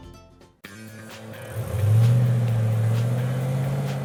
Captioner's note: car engine revving